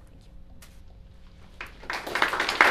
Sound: applause

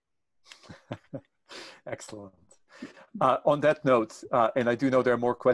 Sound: chuckling

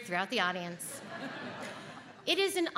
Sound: audience laughs

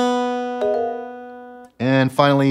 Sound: guitar strumming; app chiming

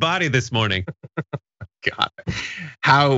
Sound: laugh

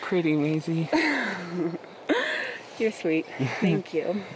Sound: laughing

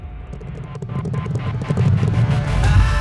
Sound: horses Galloping

